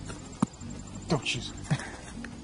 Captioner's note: soft thump; laughs